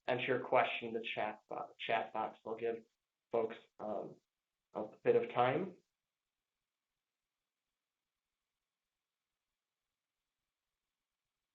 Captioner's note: pause